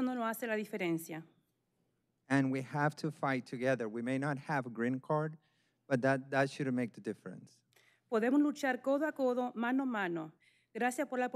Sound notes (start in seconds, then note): 0.7 speaking spanish